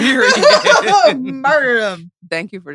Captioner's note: laughs